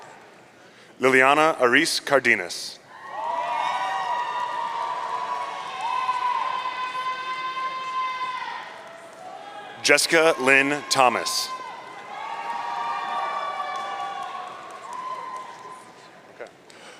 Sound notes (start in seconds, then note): 3.2 audience cheering; 12.0 audience cheering